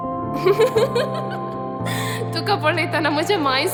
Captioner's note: laugh